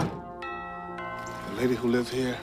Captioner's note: doorbell